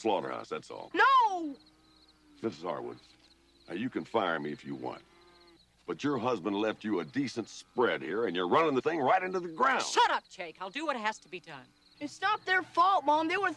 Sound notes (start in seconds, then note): 9.0 horses galloping